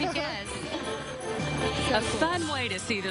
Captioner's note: laughing